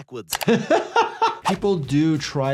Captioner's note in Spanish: el doctor se ríe